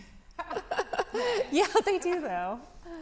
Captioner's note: both laughing